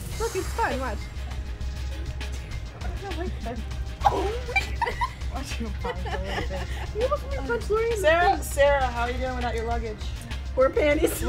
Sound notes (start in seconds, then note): 4.0 giggles